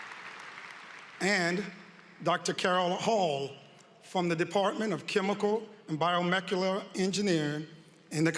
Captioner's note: applause